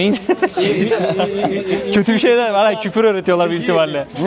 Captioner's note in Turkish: kahkaha